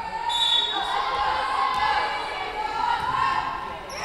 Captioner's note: whistle blowing